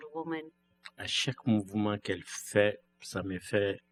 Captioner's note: speaking french